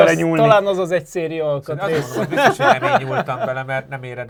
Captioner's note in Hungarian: nevetés